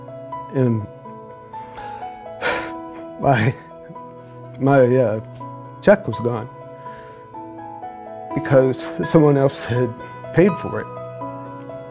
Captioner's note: sighs